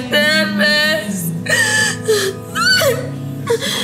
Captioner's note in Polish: płacz